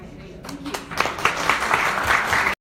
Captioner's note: audience applauds